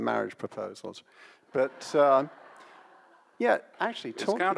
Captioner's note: audience laughs